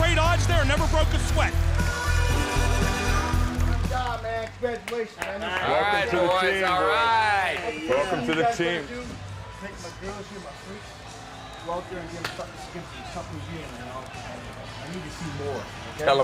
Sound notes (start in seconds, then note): 8.5 indistinct chatter